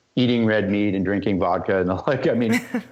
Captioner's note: laughter